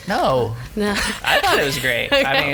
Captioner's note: laughs